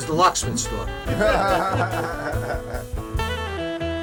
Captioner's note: laughing together; exuberant jazz music